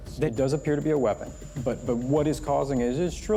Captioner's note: high-pitched chirping